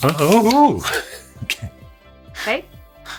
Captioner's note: laughs